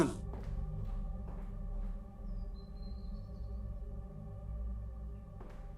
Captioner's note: footsteps fading